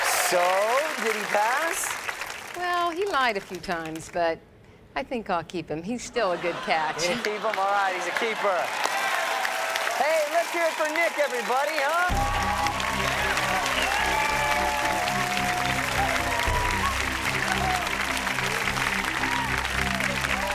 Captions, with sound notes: - So did he pass? - Well, he lied a few times, but I think I'll keep him. He's still a good catch. - Keep him, all right. He's a keeper. Hey, let's hear it for Nick, everybody, huh? (audience cheers and applauds)